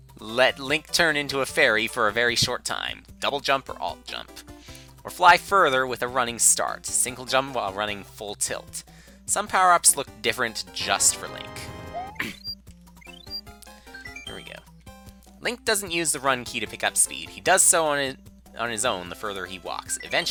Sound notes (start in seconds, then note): 12.0 clears throat